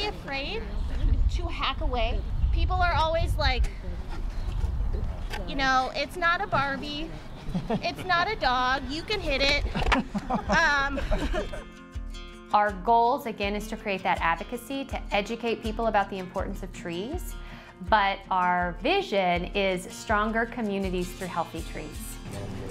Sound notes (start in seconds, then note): 10.7 laughing